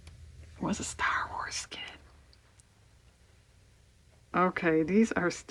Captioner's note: whispers